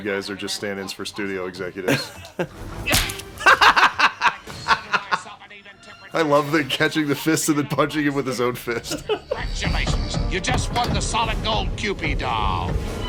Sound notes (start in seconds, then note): 3.3 belly laugh